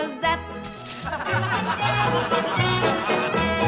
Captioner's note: laughing